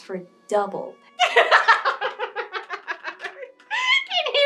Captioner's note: hysterical Laughter